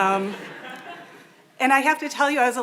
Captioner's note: audience laughing